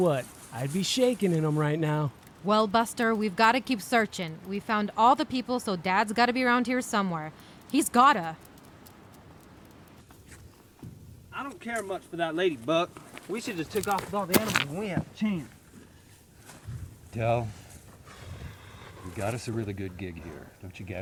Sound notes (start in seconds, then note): 8.8 dog claws tapping; 15.9 stones scuffing; 17.2 Del exasperatedly sighs